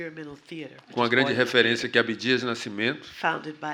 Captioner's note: speaking portuguese